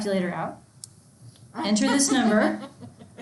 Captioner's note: laughs loudly